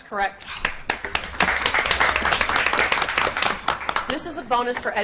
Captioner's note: audience applauds